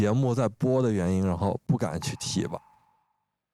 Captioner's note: choking up